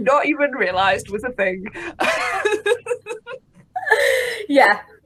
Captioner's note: laughs